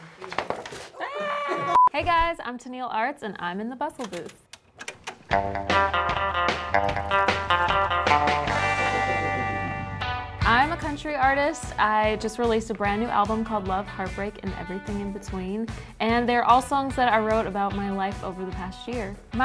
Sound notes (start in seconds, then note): 0.9 screams; 5.5 upbeat country music